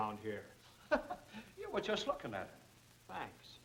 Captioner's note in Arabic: ضاحكًا